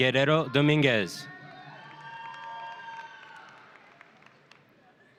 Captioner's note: audience cheering